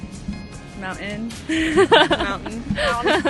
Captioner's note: laughs